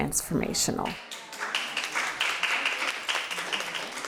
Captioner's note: crowd applauds